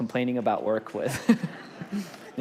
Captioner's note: congregation laughs